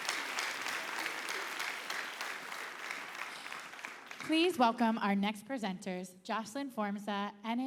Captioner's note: applause